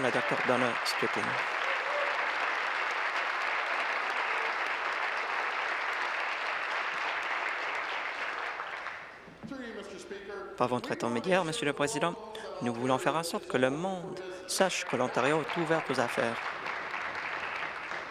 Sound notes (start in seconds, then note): 0.0 applause